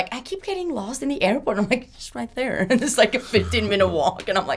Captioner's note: laughs